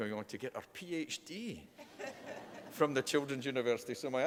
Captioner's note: laughter